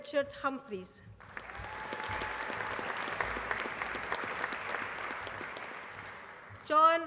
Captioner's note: applause